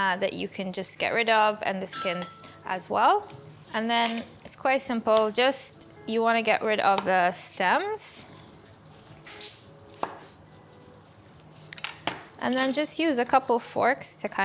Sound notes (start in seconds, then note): 10.2 knife thuds; 12.4 knife clatters